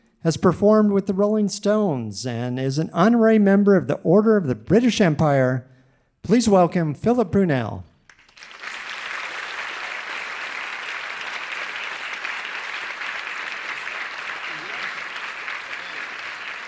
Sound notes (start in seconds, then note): 8.1 audience applauding